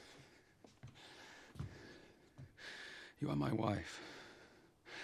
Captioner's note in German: Keuchen